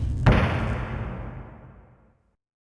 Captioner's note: air whoosh and slam